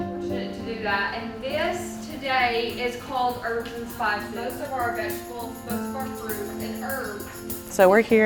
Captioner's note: background talking